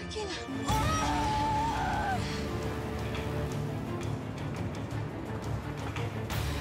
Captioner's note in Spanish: ruido del motor del auto